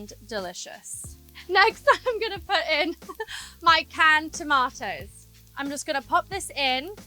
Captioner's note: giggles